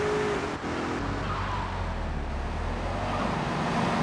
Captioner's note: sirens wailing